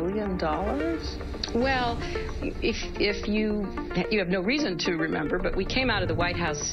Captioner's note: stuttering